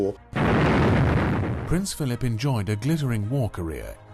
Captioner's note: voiceover